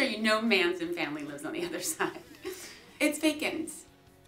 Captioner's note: giggling